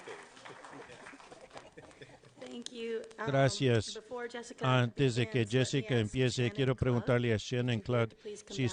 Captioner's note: applause